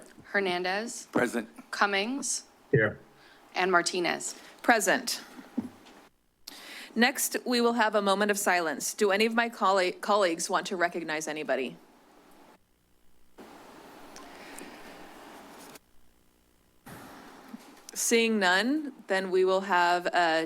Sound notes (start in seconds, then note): 13.4 pause